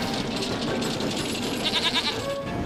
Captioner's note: bleats